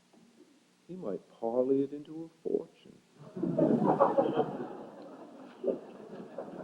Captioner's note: laughter